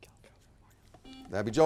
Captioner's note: whispers